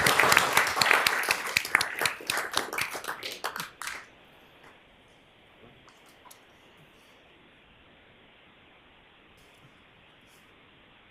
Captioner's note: applause